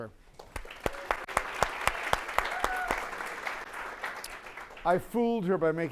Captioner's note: applause